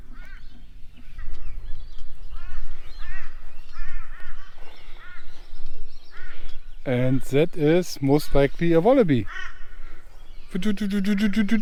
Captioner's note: birds squalking